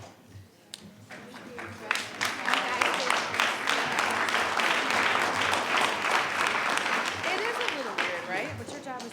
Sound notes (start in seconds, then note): 1.0 attendees clapping